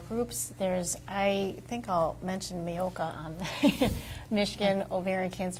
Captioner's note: laughs